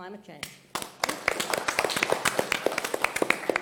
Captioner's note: applause